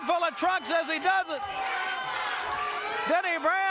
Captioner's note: bell rings; crowd boos